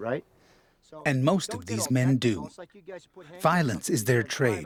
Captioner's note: voiceover